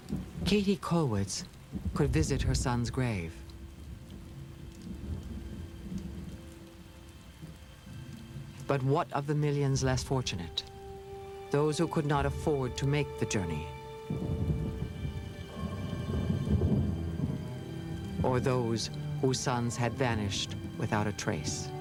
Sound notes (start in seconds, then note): 14.0 thunder